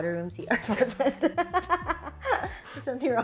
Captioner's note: laughs